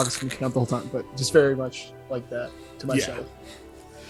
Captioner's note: making jostling sounds